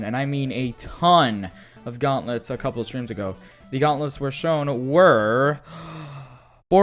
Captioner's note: inhales